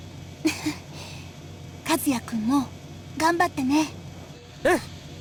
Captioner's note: chuckle